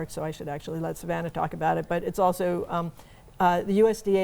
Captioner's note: none